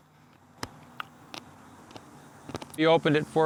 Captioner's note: crunching